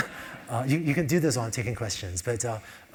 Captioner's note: laugh